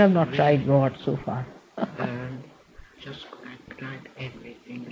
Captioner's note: she laughs